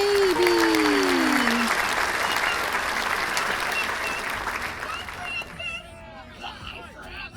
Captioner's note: applause and adoring crowd noises